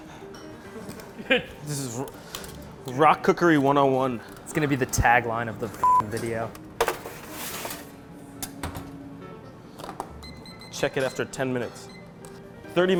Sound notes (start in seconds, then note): 0.2 laughs; 10.1 clock beeping